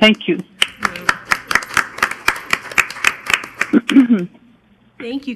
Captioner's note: crowd applauding